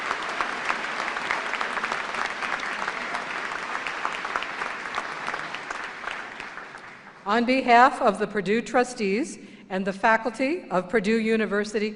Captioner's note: applause